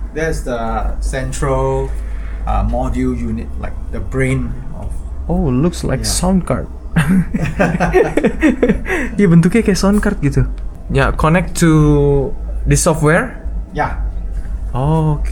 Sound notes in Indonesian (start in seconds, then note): 6.9 tertawa